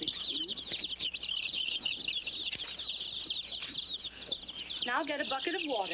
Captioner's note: chicks chirping